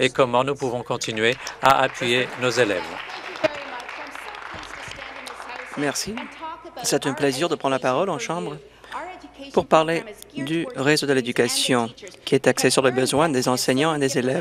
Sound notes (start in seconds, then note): 4.5 applause